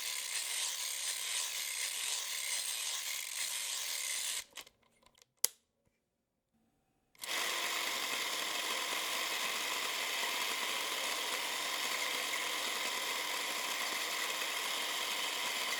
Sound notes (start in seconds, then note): 3.9 rewinding Crank clicks; 3.9 winding stops; 7.2 film camera cranking